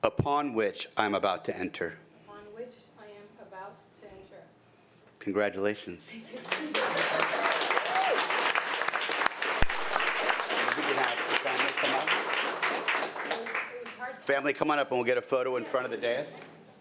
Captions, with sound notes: - Upon which I'm about to enter - Upon which I am about to enter. - Congratulations. - Thank you. (audience applauding) Have family come up. Family, come on up and we'll get a photo in front of the desk.